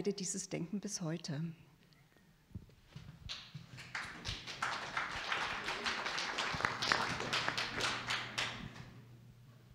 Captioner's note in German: Applaus